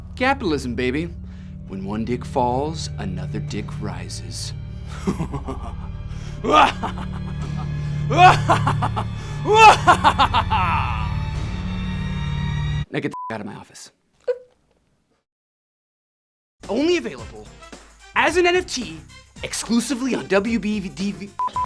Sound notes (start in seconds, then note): 4.9 Dick laughs maniacally; 13.1 beep